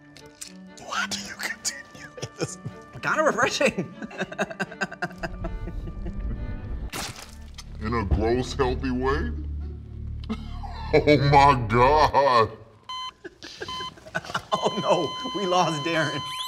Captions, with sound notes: - Why do you continue... - It's kind of refreshing! (Laughing) In a gross healthy way. Oh my god! (Flat Line Tone) Oh no, we lost Darren.